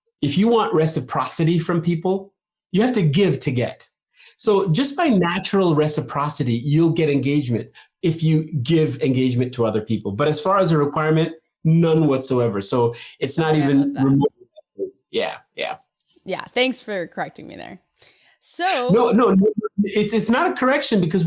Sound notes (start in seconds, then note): 14.0 voice breaking off